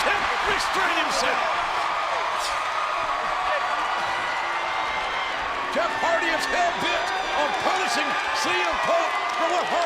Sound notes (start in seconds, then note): 1.9 crowd cheers